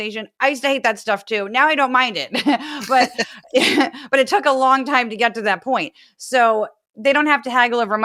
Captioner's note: laugh